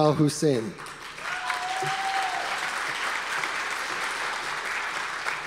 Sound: audience applause

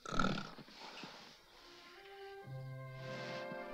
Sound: snoring

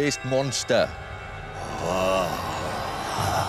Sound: horror music; growls

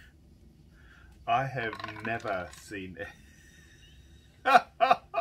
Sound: laughs

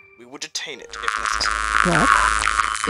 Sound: radio interference

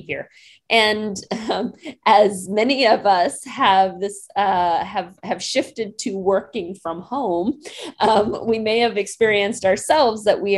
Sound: chuckling

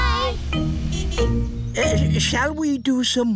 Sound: horn honks

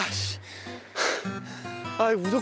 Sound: we can only hear his sound of breathing

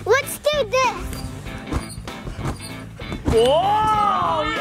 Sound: trampoline squeaking

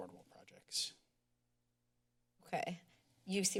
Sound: pause

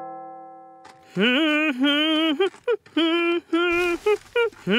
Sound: humming

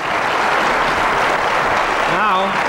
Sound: crowd applauding

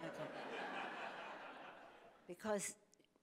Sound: audience laughing

